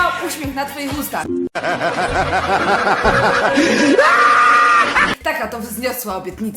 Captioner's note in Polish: hehehehehehe